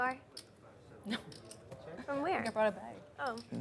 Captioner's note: laughs